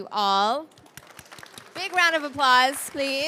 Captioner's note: audience clapping